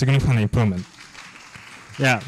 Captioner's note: applause